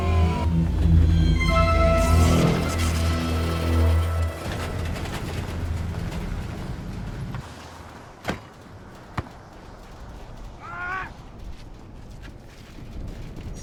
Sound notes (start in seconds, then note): 7.9 car door slams; 10.3 policeman shouts